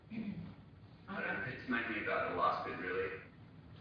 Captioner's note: audio distorts